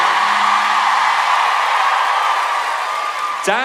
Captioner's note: audience cheer